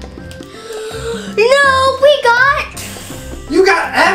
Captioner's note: gasps